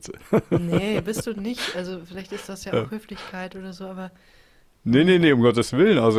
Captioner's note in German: gelächter